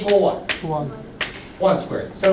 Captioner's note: voiceover